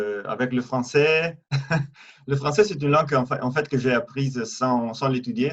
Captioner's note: laugh